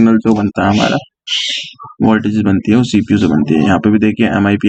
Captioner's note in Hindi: नाक से की जाने वाली आवाज़